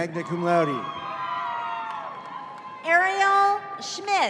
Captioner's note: audience cheering